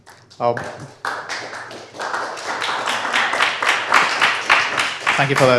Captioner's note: applause